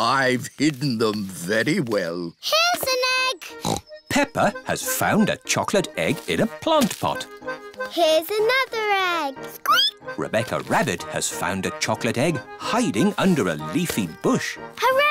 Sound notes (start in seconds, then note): 3.5 snorts